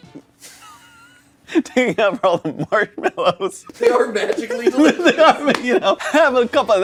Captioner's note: laughing